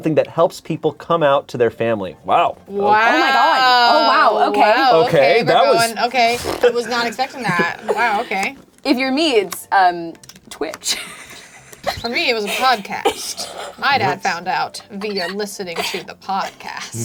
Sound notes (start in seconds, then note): 11.4 laughs